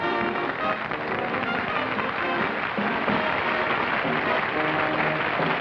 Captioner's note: applause